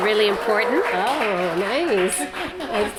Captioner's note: applause